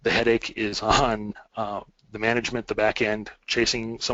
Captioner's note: chuckles